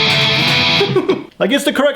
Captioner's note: laughs